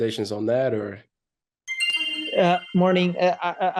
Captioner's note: chime sounds